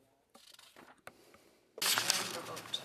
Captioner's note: speaking French